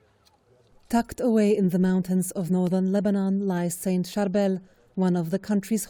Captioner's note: voice-over